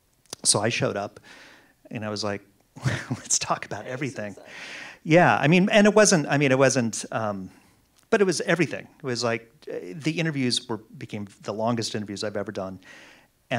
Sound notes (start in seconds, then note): 2.8 laughs